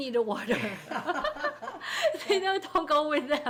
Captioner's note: people laughing